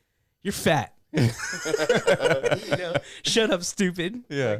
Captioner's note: laughter